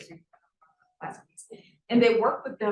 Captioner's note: sound distorted